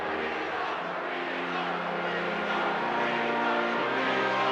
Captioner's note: crowd chants "Weasel"